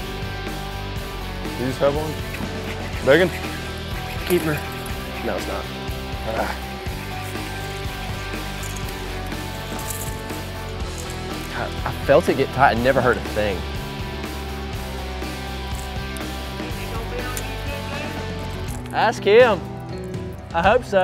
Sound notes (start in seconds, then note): 16.2 passerby talking